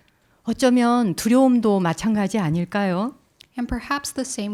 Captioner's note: speaking in Korean